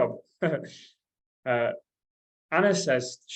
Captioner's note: chuckles